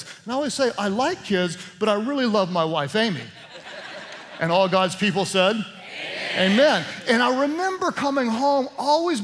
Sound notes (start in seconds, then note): 3.2 laughter